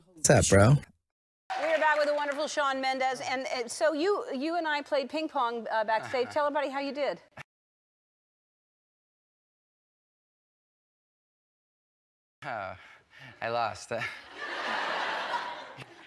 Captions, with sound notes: Sup bro? We're with the wonderful Shawn Mendes And, so you and I played ping-pong, backstage Tell us how you did Oh, I lost *laughs* *Everyone laughs*